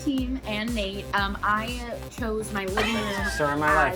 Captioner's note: laughing